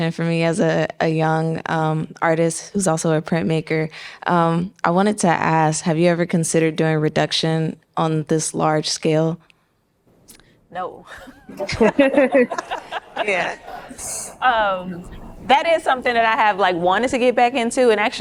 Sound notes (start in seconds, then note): 11.1 laughs; 11.4 audience laughing